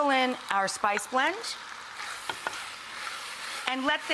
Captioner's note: pot sizzling